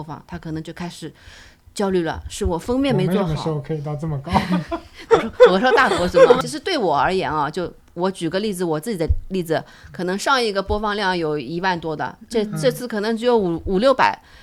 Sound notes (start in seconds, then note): 4.2 laughter